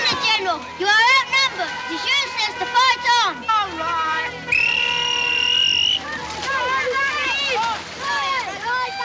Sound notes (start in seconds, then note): 4.5 whistles